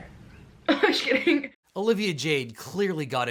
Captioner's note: laughs